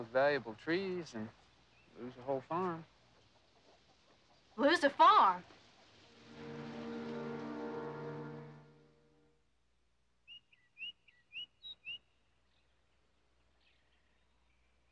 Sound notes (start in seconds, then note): 6.1 suspenseful music; 10.2 birds whistling